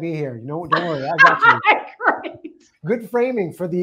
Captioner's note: laughing